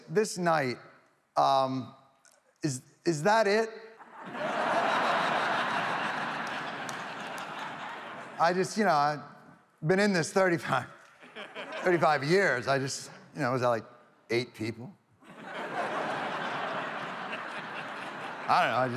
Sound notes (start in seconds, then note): 4.0 audience laughs; 15.2 audience laughs